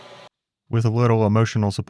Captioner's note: machine whirring